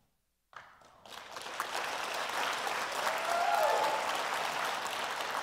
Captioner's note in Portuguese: Aplausos